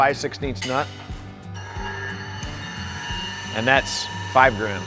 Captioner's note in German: Fröhliche Musik geht weiter; Werkzeug surrt